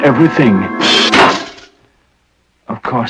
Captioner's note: crashing noise